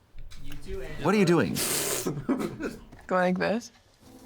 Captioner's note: laughs